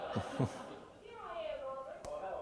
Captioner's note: audience laughter